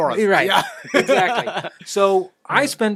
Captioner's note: laughing